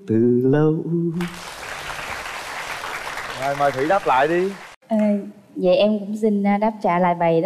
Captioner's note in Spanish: Aplaudir